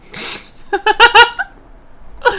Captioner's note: laughs